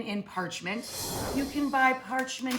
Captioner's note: air whooshes